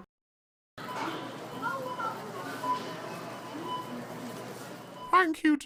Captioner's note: store background noises